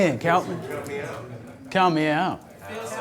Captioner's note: voiceover